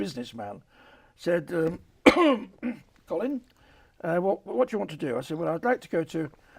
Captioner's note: coughs